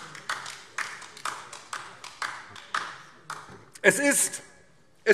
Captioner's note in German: Beifall DIE LINKE